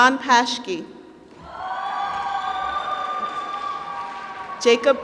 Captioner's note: applause